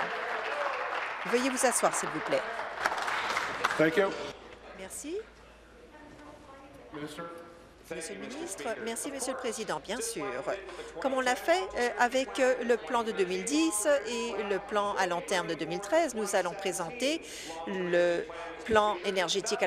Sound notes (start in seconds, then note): 3.2 applause